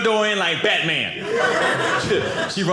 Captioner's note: audience laughing